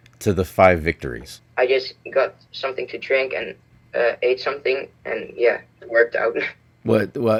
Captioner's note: laughs